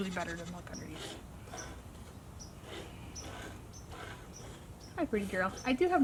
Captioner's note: milk squirting into bucket